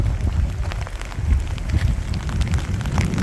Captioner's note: sound of heavy rain falling